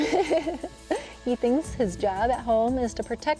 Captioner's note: laughs